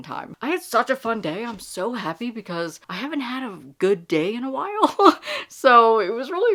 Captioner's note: laughs